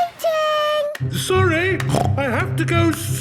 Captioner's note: snorts